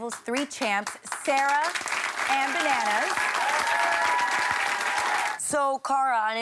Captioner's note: everyone applauding